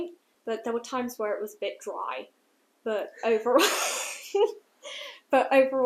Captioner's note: laughter